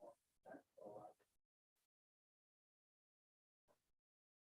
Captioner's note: group chattering